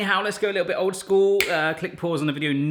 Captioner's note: snapping fingers